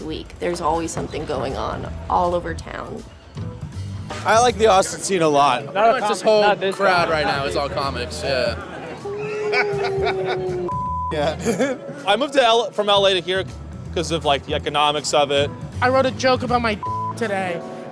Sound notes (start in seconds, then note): 9.0 group member laughs